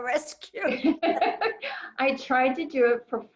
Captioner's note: laughs